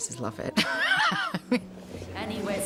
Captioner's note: laughs